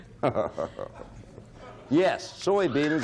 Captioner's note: Bill laughs